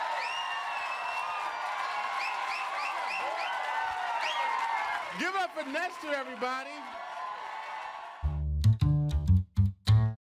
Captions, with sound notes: - Give it up for Nestor everybody. (audience cheering)